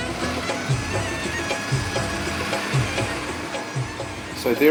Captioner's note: trucks roaring